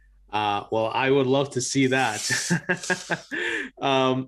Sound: laughing

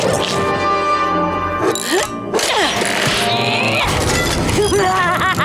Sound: grunting

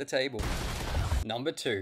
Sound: gunshots

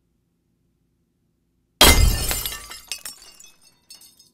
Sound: glass shattering sound

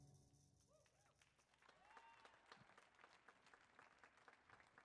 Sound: audience applauds

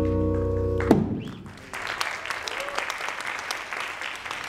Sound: audience applauding

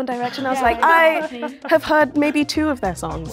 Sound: laughing

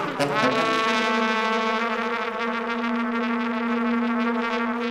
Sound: trilling

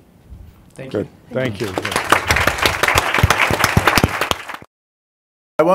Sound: applause

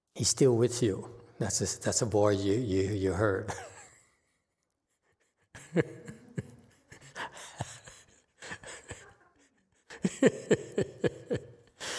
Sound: laughs

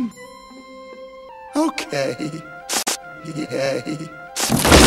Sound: Snif

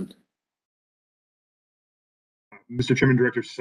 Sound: A pause

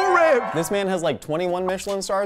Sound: crowd cheers

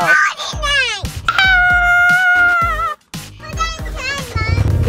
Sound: mock screams

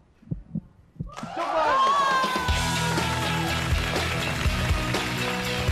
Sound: claps and applauses

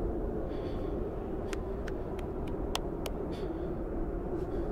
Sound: clapping powder on palms

